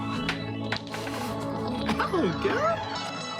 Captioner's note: laughs